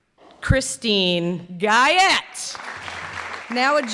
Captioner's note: clapping